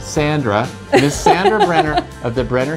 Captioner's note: laughs